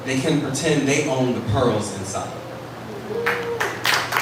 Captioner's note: applause